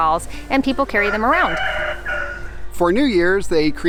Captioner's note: rooster crowing